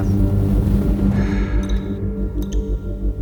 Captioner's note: breathing; water drops